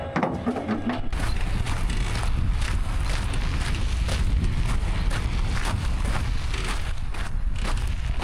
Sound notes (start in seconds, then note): 2.7 rumbling